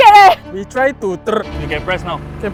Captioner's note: drill